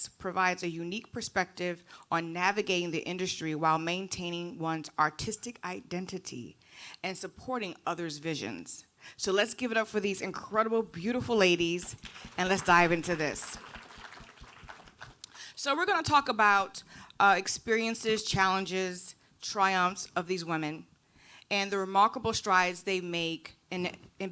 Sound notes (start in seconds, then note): 11.9 audience applauding